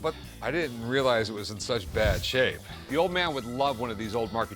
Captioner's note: none